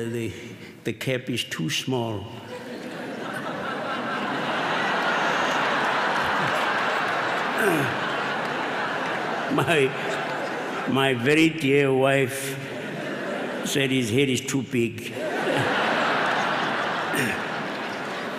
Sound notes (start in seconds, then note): 5.8 laughter